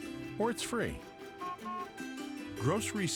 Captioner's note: honks horn